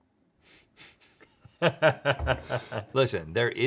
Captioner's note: Rhett laughing